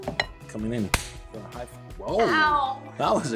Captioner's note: hands slap